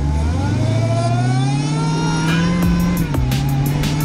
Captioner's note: brutal and blissful blower whine